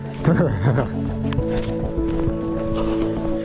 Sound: laughs

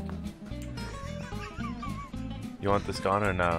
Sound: laughs quietly

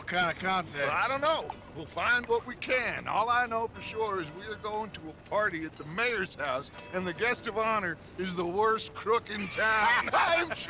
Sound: he and the others laugh

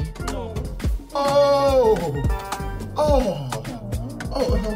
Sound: moaning

